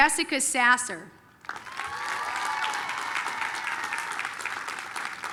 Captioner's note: applause, cheering